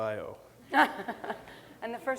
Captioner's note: laughter